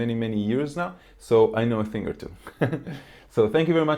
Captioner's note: laughs